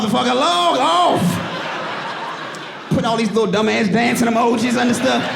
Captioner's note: audience laughing; audience laughing